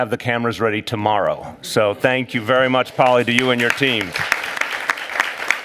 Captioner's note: applause